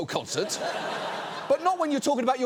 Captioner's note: audience laughs